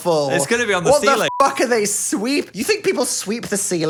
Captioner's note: beep